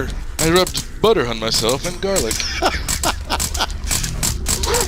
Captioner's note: laughs